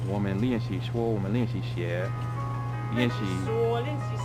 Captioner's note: mandarin